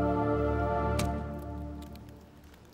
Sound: skull cracking noises

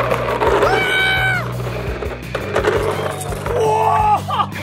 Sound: shrieking

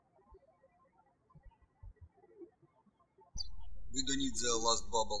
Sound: birds chirping

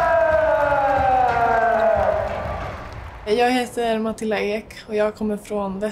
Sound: speaking in foreign language; soft music

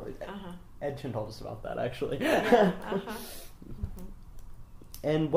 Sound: laughs

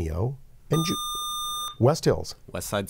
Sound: buzzer

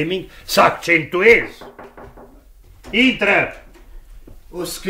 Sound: knocks on the door

